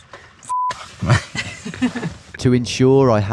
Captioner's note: beep; laughs